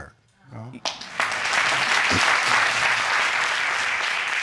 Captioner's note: audience clapping